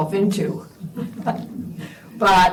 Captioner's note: laughter